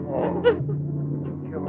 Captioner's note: crying